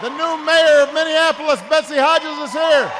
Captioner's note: applause